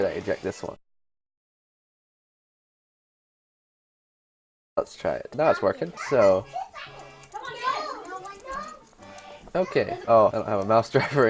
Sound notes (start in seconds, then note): 0.9 silence; 6.8 typing